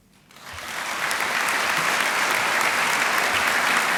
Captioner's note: applause